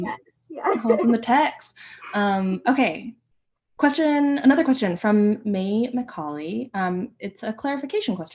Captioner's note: laughter